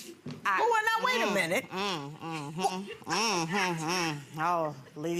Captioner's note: grunting